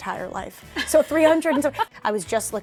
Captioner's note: laughs